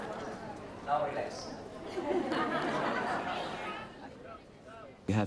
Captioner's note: laughter